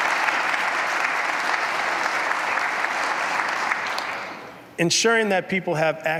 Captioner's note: applause